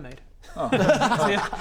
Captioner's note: laughs